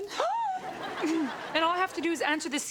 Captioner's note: audience laughs; Robyn gasps